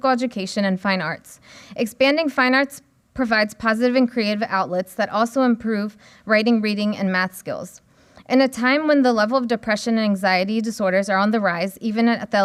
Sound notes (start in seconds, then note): none